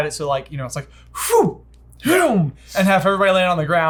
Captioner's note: puffs